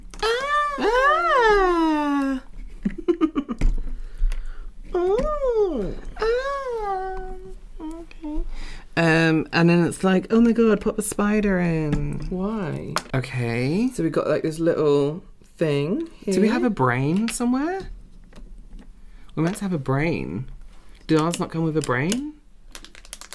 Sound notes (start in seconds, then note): 4.9 more surprised noises